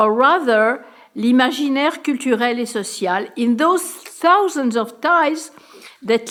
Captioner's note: speaking french